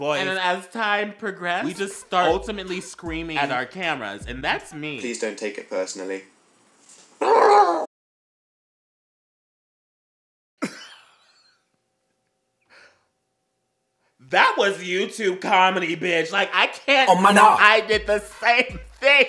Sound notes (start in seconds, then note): 10.7 wheezing